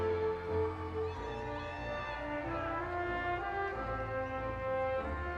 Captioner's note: audience cheering